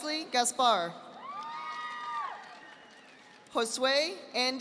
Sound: audience applauding

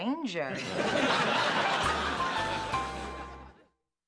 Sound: laughter

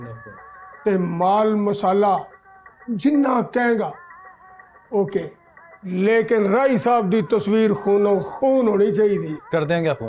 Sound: speaks Punjabi

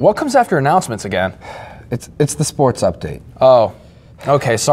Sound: sigh

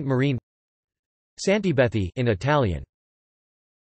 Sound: in Italian

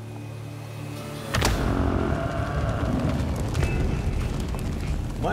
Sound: gunshot

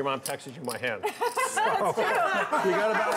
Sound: laughing

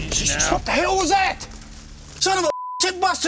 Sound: yelling

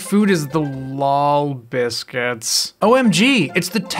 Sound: strained, unenthusiastic voice

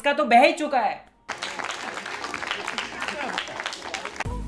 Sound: a round of applause by the last two braincells

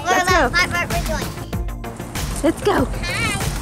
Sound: murmurs

